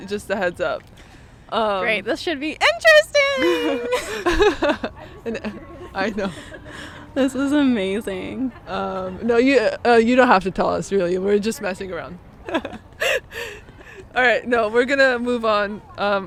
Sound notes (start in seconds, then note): 3.4 both laughing; 12.5 both laughing